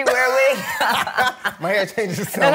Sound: both laugh

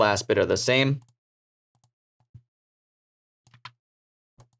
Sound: mouse clicking

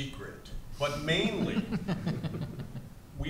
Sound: panelists laugh

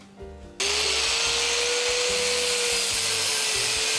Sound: wheel grinding

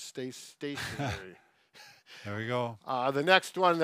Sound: laughs

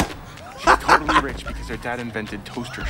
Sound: Trixie chortles

